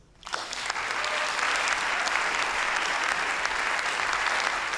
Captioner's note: attendees cheer and applaud